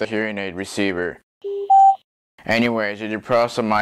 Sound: microphone Pairing Sound

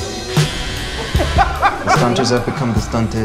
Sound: laughs

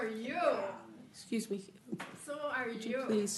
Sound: off mic

